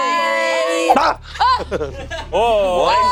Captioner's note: screams